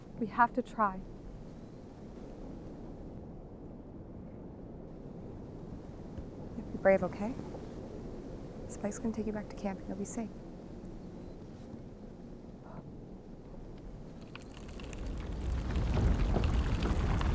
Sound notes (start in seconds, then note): 14.2 rattling